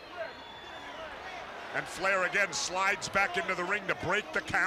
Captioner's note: crowd chatter